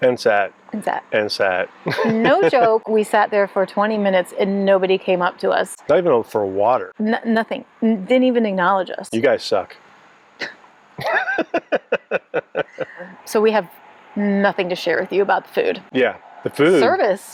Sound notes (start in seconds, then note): 11.0 laughing